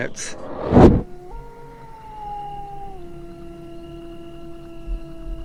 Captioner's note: animal howling